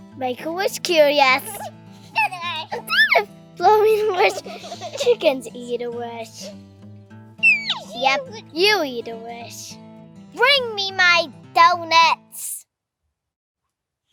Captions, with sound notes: Make a wish Curious. [child laughing] Instead of blowing a wish, chickens eat a wish. [child laughing] Yup, you eat a wish. Bring me my donuts! [silence]